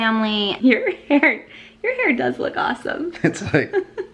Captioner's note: laughs; giggles